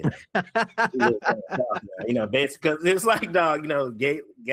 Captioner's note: all Laughing